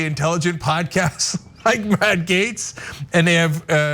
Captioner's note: laugh